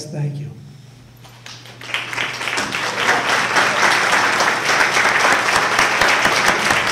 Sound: applause

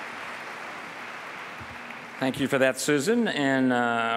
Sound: applause

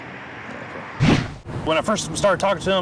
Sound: whoosh

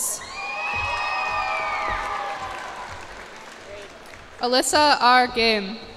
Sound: cheers and applause

